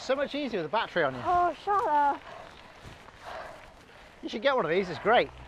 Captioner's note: out of breath breathing